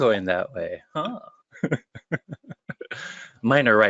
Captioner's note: laughter